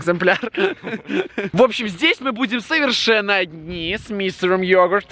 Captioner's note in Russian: смех